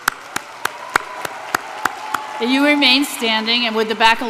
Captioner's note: applause